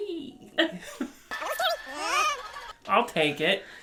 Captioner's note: laughs